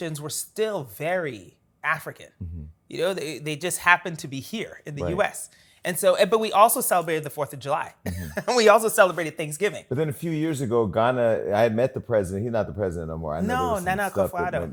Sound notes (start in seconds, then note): 8.0 laughs